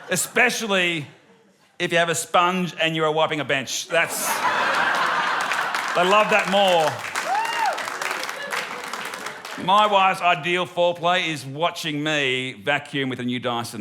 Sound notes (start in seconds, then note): 3.9 laughter; 7.3 applause